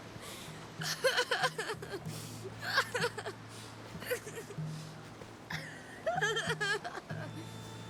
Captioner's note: sobbing